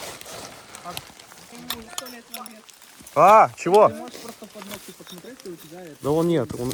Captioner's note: chatter